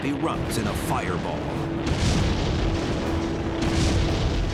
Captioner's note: explosions